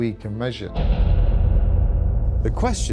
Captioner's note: object clangs